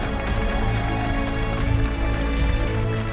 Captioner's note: applauses